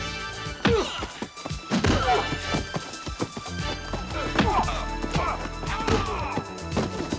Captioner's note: dramatic music; body thudding; men groaning